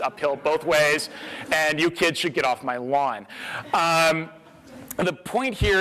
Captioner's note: audience laughter